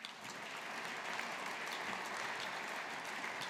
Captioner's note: audience applauding